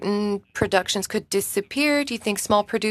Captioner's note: speaking in French